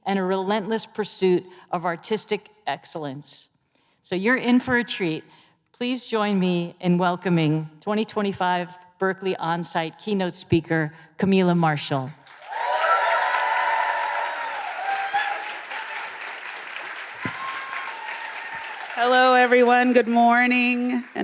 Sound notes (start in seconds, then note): 16.1 applause